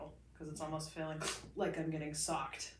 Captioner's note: sharply inhales